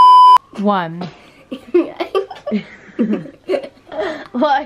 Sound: laughing

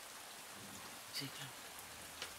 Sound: whispering

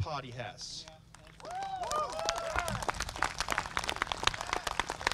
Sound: applause

